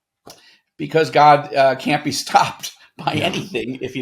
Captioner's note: chuckles